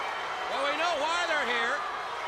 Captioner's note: crowd cheering